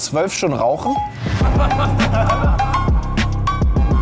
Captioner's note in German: Männer lachen